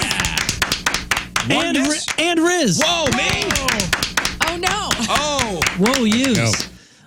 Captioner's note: clapping